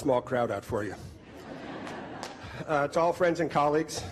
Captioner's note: crowd laughing